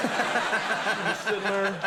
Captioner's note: audience laughing